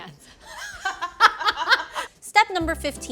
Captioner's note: laughing